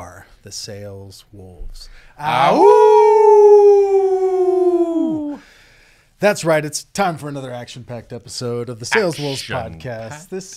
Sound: howl

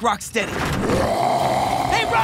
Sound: roaring

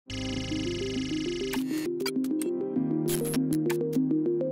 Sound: digital whirring

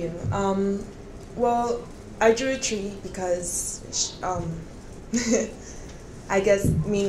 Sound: chuckles

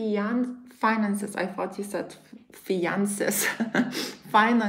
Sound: chuckles

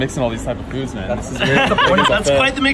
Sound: laughter

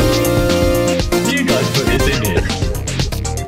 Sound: laughing

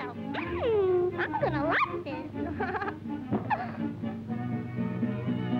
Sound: laughs

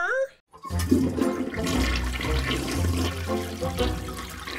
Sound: toilet water gurgles

